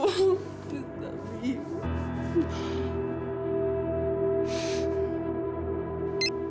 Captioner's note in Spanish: Sollozando